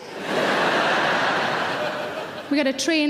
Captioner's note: audience laugh